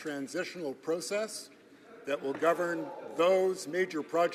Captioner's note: some Applause